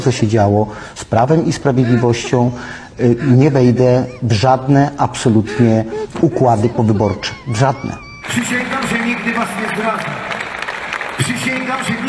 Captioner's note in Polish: Aplauz